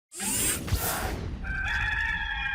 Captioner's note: synthesized sound; rooster crowing